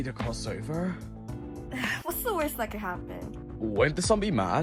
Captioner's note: chuckles